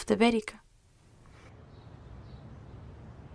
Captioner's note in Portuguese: Vento e chilrar de pássaros